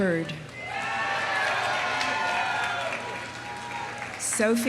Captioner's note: audience cheering; audience applauding